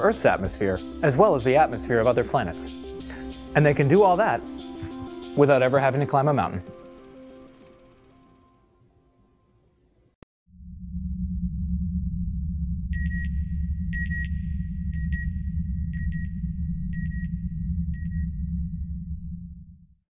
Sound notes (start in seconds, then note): 12.4 rumbling, beeping; 16.5 beeping